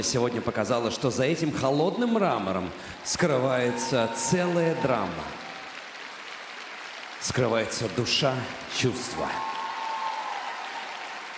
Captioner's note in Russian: аплодисменты